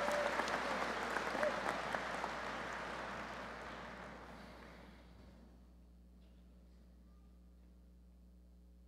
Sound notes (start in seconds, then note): 5.5 applause